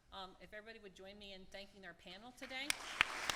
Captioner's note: applause